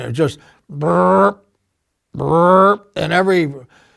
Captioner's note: trilling